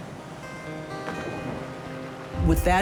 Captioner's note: splashing